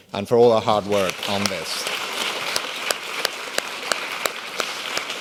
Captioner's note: applauding